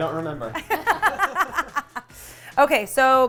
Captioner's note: all laughing